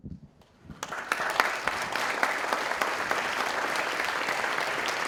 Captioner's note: audience applauding